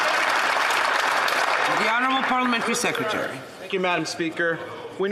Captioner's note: some Applause